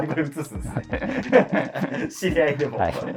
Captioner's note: laughing